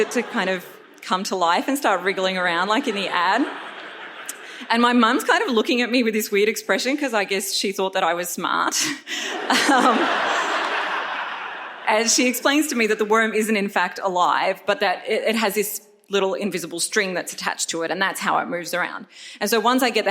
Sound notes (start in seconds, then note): 4.5 audience laughs; 9.3 audience laughs